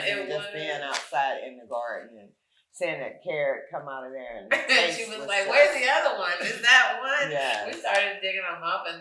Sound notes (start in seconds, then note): 4.9 chuckles